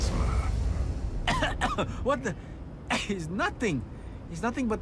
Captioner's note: coughs